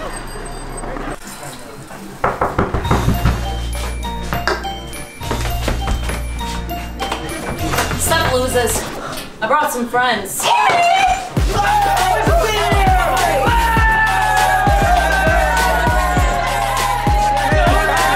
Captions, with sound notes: (knock at the door) Sup losers. I brought some friends.